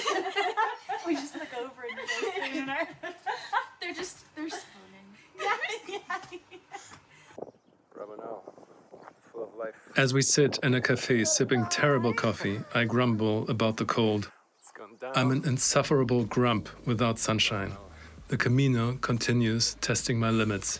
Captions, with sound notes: imagine...We just look over and look at you and I... They're just... they're just spooning. [Laughter] As we sit in a cafe sipping terrible coffee, I grumble about the cold. I'm an insufferable grump without sunshine. The Camino continues testing my limits.